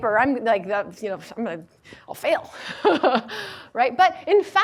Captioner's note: laughs